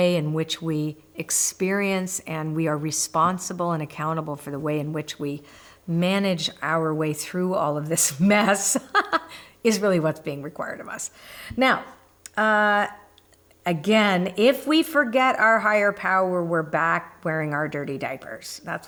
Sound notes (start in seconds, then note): 8.6 laughs